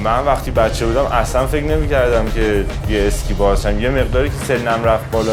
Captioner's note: speaks in other language: translation on screen